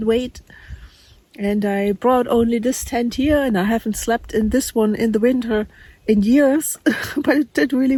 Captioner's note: laughs